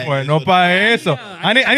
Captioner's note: speaking In Foreign Language